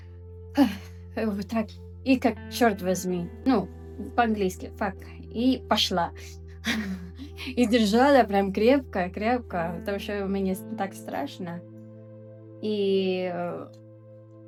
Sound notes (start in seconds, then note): 0.6 sighed